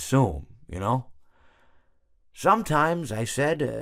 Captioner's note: awkward Silence